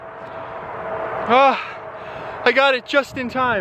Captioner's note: sigh